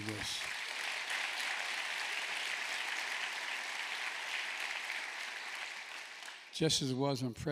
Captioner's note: applause